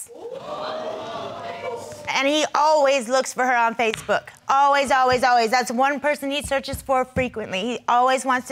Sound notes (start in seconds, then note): 0.1 crowd gasping